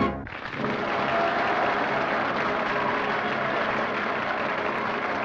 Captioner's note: applause and cheering